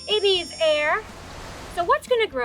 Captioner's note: bright noise; wind blowing